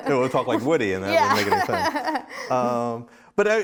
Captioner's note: laughs